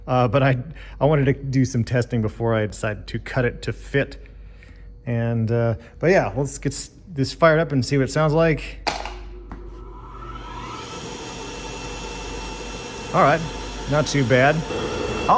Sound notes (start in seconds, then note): 8.8 foot switch clicks, blower whirrs